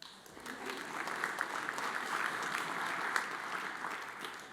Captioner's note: audience applauds